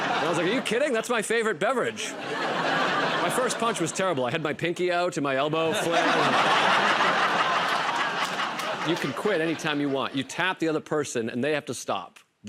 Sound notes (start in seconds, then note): 0.0 laughter; 5.7 laughter and applause